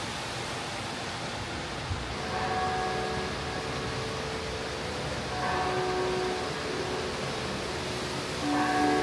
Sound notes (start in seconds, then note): 1.4 water whooshing; 2.1 bells ringing